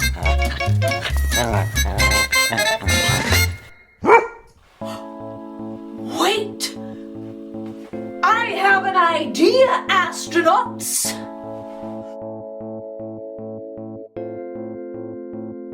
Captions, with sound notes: (dog growling) (dog barking) Wait, I have an idea astronauts.